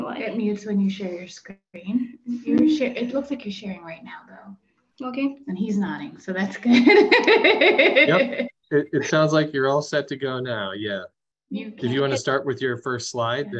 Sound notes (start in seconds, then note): 6.6 laughter